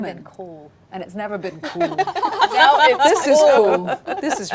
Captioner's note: laughing